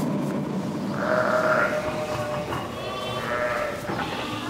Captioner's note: bleating